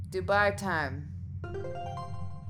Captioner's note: pleasant chime